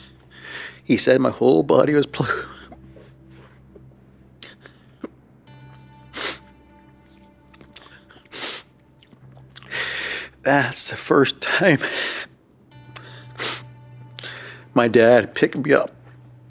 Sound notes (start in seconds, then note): 7.9 sobbing